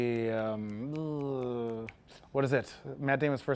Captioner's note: vocalizes and snaps